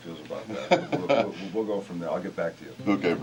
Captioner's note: laugh